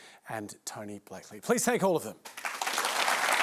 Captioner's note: applause